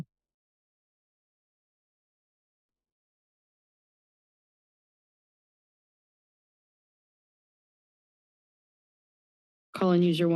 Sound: silence

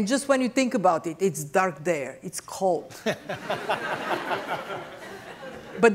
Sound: laughter

